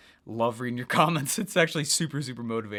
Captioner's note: chuckles